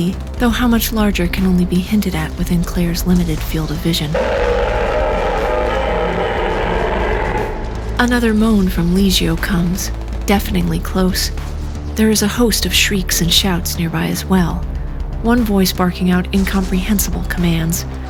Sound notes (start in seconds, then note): 4.0 a large, angry ROAR